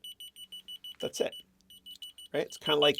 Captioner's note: keys beeping